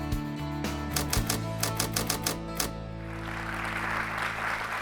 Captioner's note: typewriter typing; audience clapping